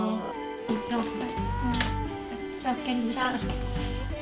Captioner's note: foreign language spoken